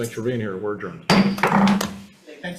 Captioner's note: gavel banging